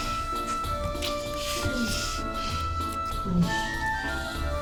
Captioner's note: moaning